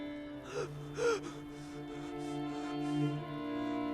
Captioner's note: Matt gasps and pants